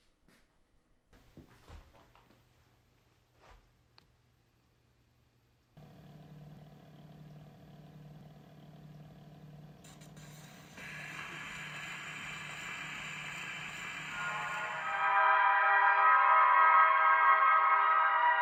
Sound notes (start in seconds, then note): 5.6 whirring of record player table; 9.8 needle scrapes record